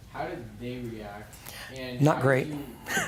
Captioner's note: laughing